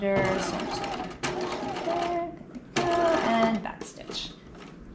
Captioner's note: sewing machine whirling drowns out speaker